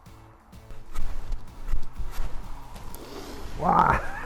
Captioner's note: upbeat music; sawing; laughs